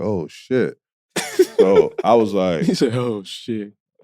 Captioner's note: laughing